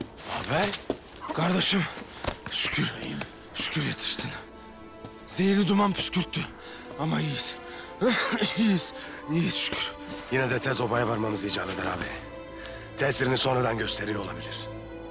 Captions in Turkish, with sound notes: Ağabey? Gardaşım, şükür. Şükür yetiştin. Zehirli duman püskürttü. Ama iyiyiz. (Öksürüyor) İyiyiz. İyiyiz şükür. Yine de obaya tez varmamız icap eder ağabey. Tesirini sonradan gösteriyor olabilir.